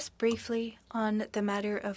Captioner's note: speaking French